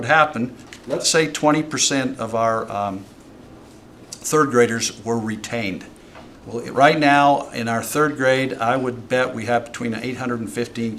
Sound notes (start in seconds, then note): none